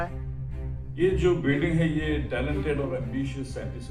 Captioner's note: news on TV